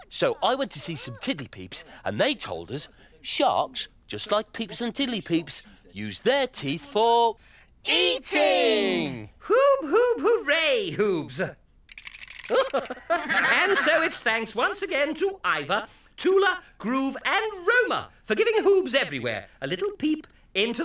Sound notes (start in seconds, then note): 12.5 everyone laughs